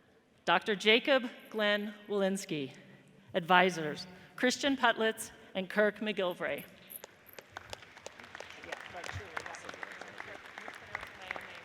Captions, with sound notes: Dr. Jakob Glenn Wolynski advisers Christian Puttlitz and Kirk McGilvray. (audience applauds)